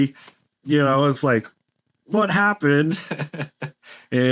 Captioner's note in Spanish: risas